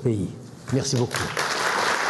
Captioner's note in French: Applaudissements